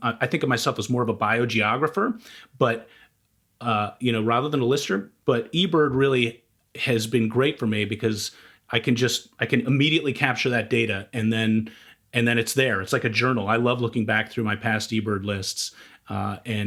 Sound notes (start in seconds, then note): none